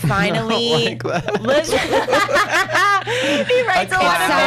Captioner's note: laughs